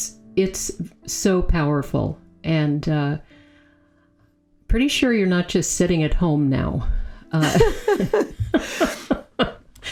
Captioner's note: both laughing